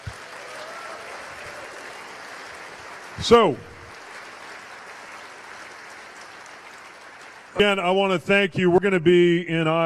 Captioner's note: cheers/applause